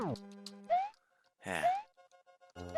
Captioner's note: sigh